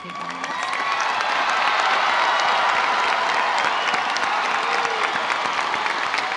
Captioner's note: audience applauding; audience cheering